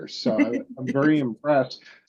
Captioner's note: laughs